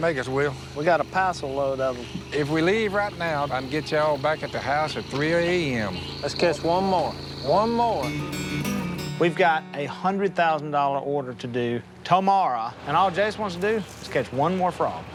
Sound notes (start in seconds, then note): none